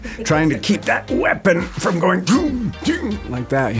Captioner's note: sound effects